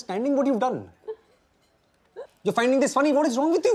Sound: laughs

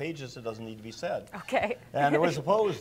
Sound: laughs

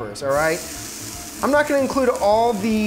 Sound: food sizzling

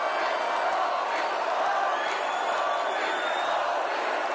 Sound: crowd; crowd cheering

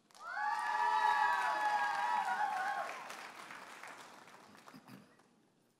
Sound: audience applauding and cheering

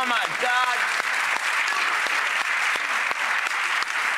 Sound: applause

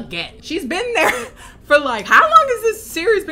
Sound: laughs

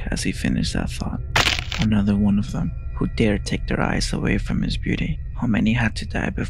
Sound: snap

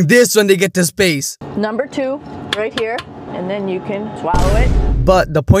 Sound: boom

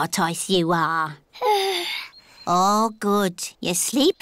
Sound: yawns

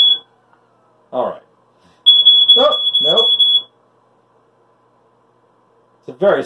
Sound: smoke alarm comes back on

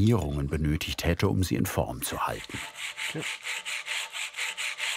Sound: grinding noises

